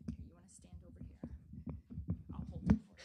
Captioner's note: whispering